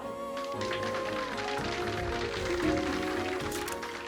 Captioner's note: audience applauding